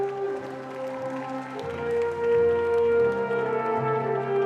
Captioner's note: dramatic music continues; audience clapping